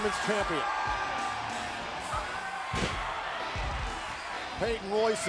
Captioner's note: crowd cheering